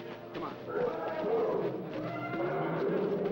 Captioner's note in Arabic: الفيل يتذمر; زئير الفيلة